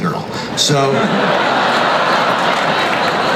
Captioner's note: crowd laughs